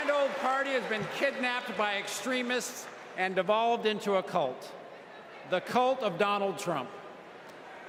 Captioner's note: cheers and applause